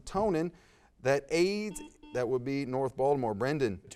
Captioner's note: buzz